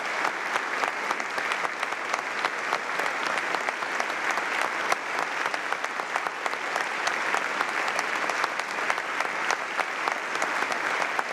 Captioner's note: applause